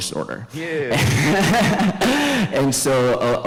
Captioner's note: audience member laughs